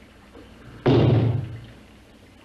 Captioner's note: loud knock